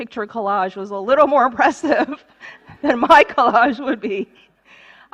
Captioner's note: laughter